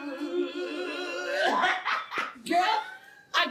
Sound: both laughing

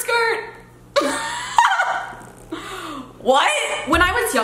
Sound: laughing

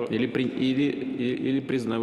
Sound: speaking Foreign Language

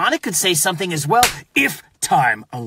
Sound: slap

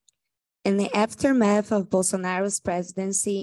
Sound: speaking Portuguese

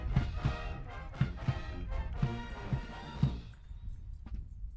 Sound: medals clinking

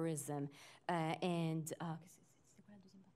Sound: french

